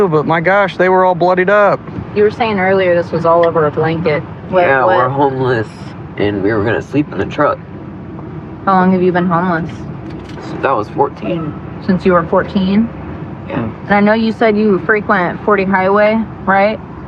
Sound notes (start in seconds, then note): none